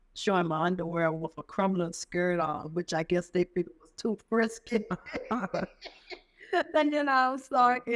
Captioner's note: laugh